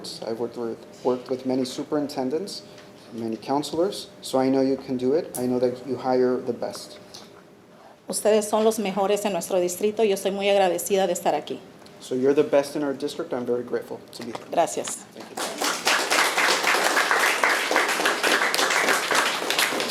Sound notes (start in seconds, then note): 8.5 speaking Spanish; 15.2 attendees clapping